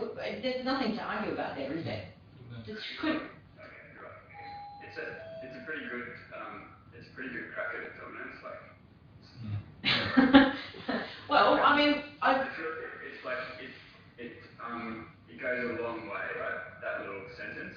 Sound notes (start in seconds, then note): 7.3 audio distorts; 9.8 laughter